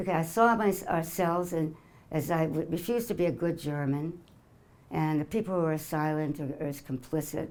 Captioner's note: none